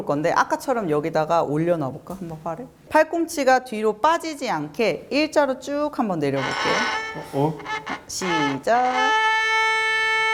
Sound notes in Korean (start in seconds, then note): 6.3 끼이익